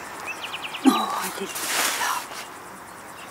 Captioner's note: she groans